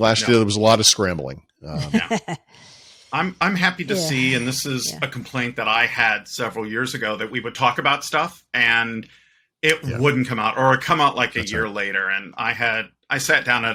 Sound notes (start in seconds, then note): 1.7 laughing